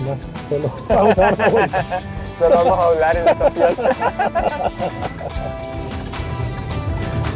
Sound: laughs

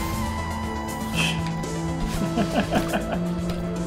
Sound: chuckles

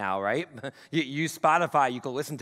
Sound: chuckles

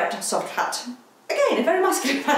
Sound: laughs

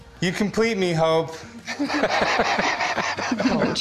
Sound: laughter

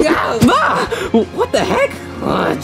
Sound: grunts

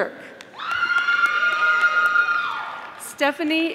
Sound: audience applauding

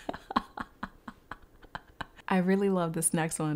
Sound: laughs

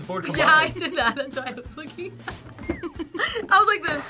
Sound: laughs

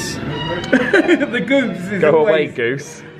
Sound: laughs

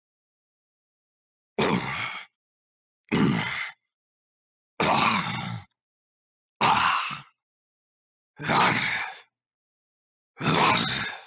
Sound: sound of zombie

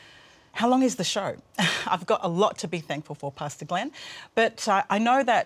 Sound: laughs

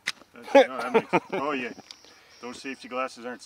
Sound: laughs

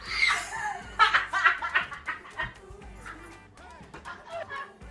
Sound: laughing

